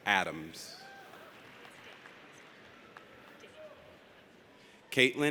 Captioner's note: audience applauds